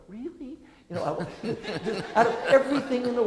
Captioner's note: audience laughing